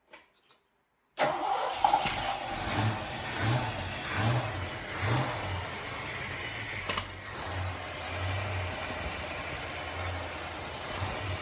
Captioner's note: engine